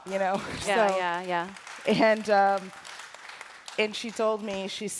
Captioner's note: applause